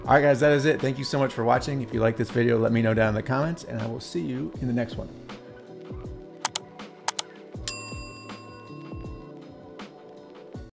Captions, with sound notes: All right, guys, that is it. Thank you so much for watching. If you like this video, let me know down the comments. And I will see you in the next one. (gentle music) (pointer clicks) (bell dings) (gentle music)